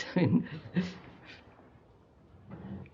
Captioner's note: laughs